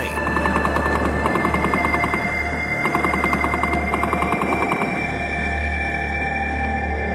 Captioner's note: tense music; guns firing